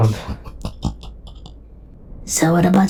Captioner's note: Beth mischievous giggle